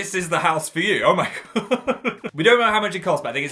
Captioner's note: laughs